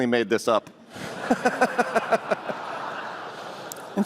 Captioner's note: laughter